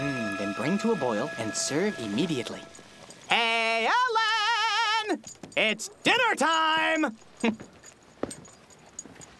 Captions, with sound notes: MM...THEN BRING TO A BOIL AND SERVE IMMEDIATELY. ( Yelling ) HEY, EL-LEN!!! IT'S DINNERTIME!